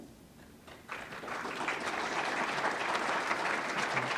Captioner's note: applause